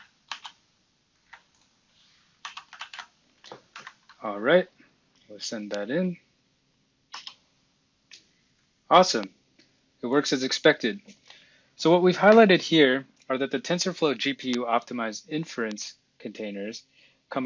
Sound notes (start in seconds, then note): 0.1 typing; 7.1 key clacking